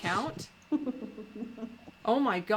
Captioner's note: laughs